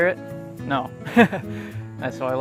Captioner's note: laughs